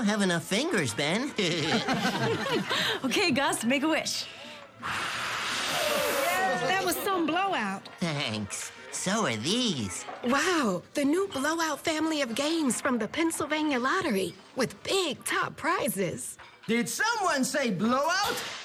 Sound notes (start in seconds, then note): 1.2 laughter; 6.4 blows out candles